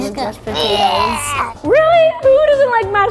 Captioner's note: vomit sound